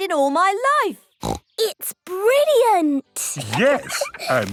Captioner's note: laughs